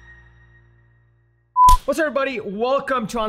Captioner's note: logo beeps